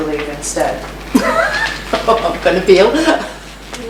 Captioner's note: laughs